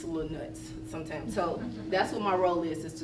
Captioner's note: laughter